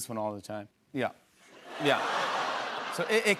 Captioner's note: laughter